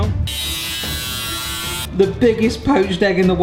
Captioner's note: dremel whirring